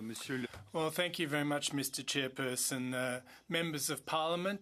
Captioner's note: speaking French